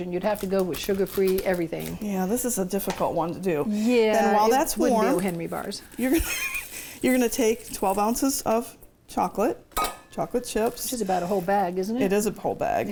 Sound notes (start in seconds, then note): 6.0 laughs